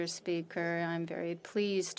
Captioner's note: speaking French